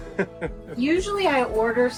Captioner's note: laughs